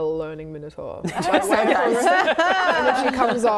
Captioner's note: laughing